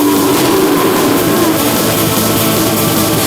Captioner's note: roaring